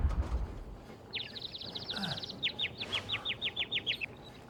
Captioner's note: <i> birds chirping</i>